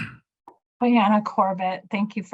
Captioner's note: speaking in Native language